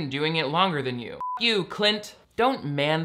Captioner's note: beep